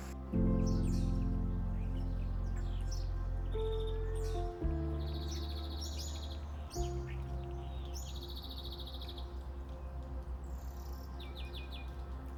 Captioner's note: birds chirping